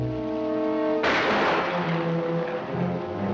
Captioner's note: gunshot; dramatic music